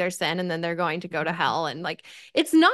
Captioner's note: none